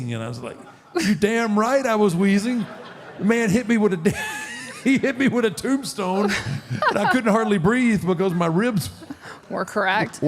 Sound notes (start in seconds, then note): 2.4 audience laughs; 6.2 Michelle laughs